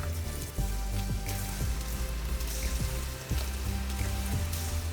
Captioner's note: chicken sizzling